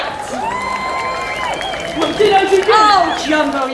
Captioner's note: crowd cheering